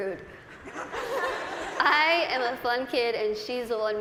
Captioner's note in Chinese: 大笑